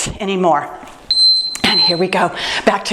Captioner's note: timer beeps